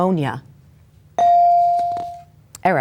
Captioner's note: bell dings